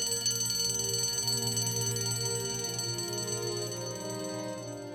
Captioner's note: ringing fades away